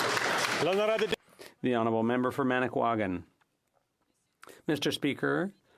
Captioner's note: some Applause